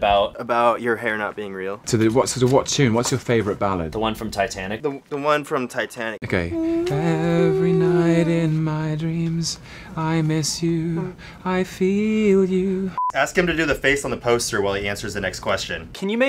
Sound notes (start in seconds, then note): 6.5 humming; 8.0 singing